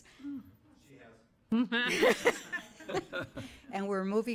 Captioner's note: laughing